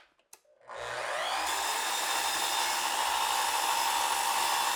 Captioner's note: saw machine whirring